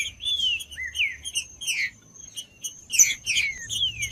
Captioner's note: trinca ferro cantando